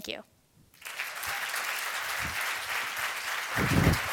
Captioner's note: applause